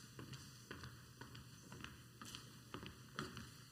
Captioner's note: footsteps walking on stage